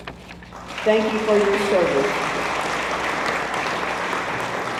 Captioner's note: audience applauds